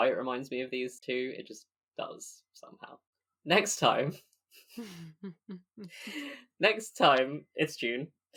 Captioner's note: laughing